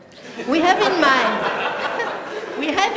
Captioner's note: laughter